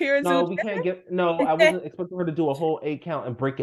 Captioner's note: laughs